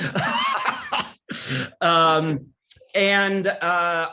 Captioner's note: laughing